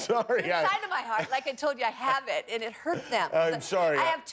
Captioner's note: laughter